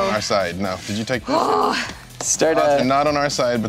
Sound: groaning

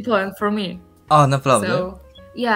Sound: Polish

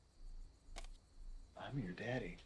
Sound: knives clicking

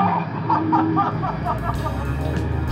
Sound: laugh

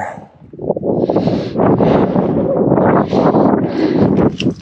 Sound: wind blowing

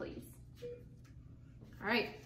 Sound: beeping

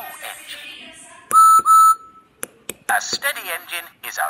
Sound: whistle blows

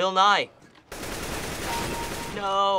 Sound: firing; kill chime

